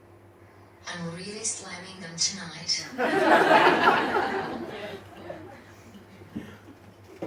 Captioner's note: audience laughs